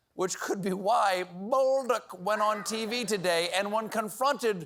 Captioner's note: none